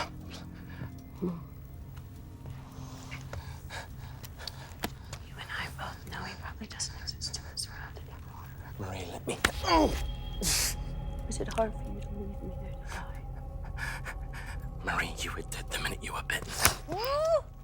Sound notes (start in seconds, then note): 10.6 gasps; 14.4 Gerry panting